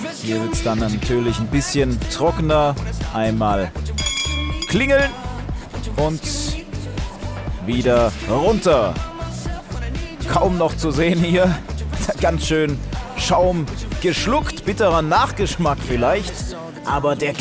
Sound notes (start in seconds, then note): 10.2 lachend